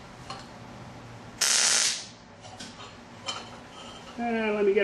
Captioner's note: welding